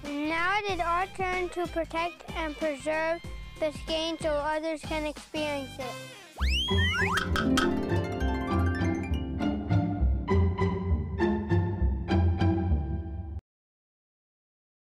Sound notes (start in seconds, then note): 6.3 whistling; 7.2 clacking; 7.4 lighthearted music